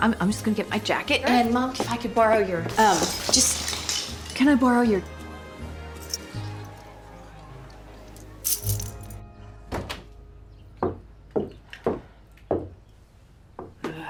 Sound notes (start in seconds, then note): 6.0 keys jingle; 9.7 door opens, footsteps